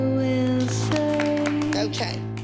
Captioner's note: applause